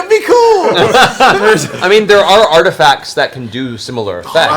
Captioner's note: laughs